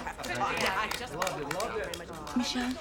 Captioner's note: all chattering